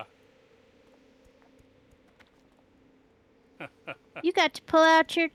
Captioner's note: laughs